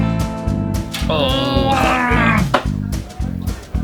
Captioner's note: groans